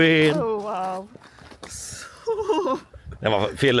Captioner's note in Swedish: skratt